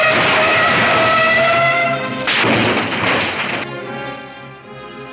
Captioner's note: car crashes